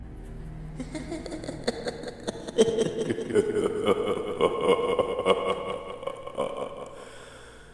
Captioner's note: laughs